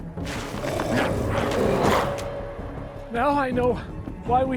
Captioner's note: glowzies growling